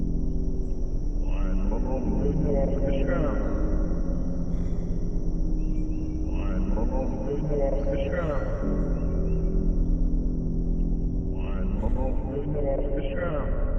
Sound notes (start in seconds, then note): 4.6 Main Character Breathing Heavily